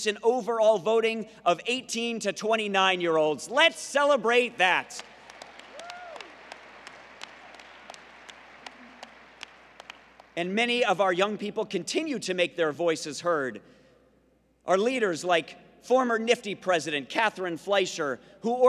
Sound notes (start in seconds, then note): 4.8 applause